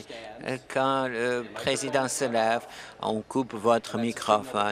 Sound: conversation din

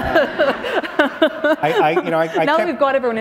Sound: laughter

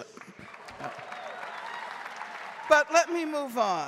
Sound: audience cheering and applauding

